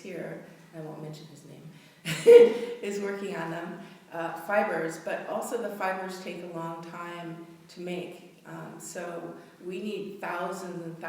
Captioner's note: laughing